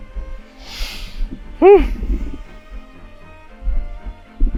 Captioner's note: inhales deeply